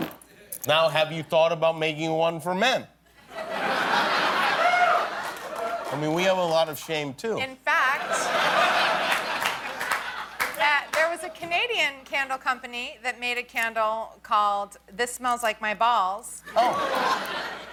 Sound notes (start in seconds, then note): 8.0 laughter